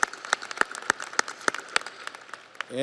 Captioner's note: audience applauds